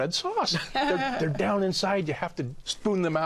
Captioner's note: laughs